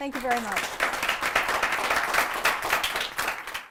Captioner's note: applause